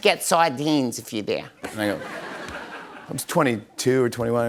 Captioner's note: laughter